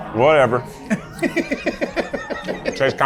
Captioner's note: laughs